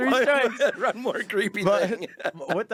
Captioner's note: laughing